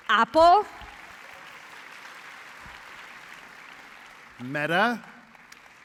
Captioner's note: applause